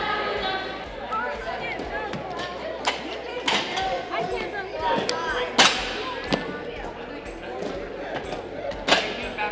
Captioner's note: running and gym sounds